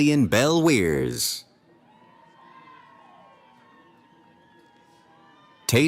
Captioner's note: cheering